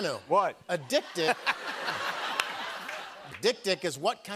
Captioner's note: laughter